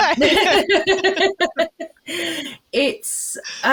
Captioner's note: laughter